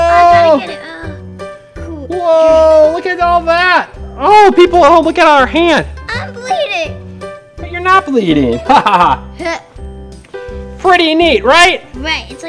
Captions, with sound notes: I gotta get it, whoa! - Whoa, look at all that. Hey, people at home, look at our hand! - I'm bleeding! - But you're not bleeding. (laughs) Pretty neat, right?